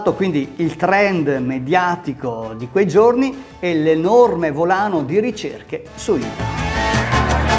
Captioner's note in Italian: Applauso